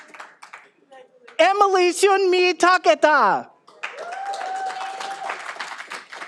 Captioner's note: all applauding